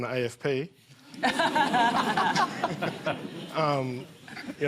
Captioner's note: laughter